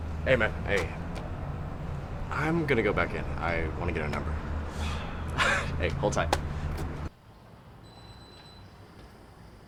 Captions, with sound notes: - Hey man, hey, I'm gonna go back in. I wanna get her number. (Miles sighs) Hey, hold tight.